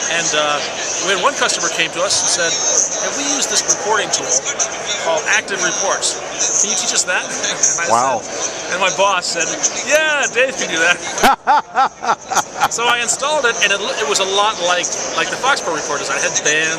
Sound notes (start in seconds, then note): 10.9 laughter